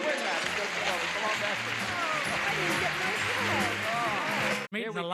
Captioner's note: audience applauds